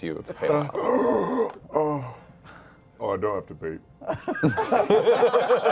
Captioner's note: gasps; laughter